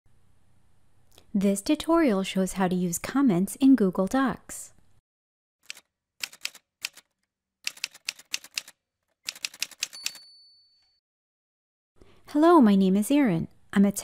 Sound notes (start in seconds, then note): 5.6 typewriter sounds